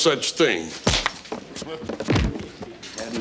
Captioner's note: body thumps; fist thuds